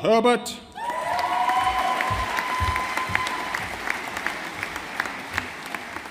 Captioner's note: audience applauding